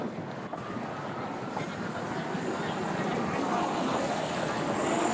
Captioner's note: sirens, mixed conversation